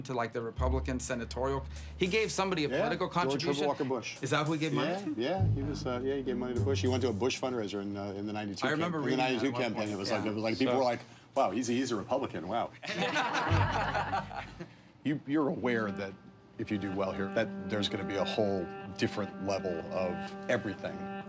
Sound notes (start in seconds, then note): 12.8 laughter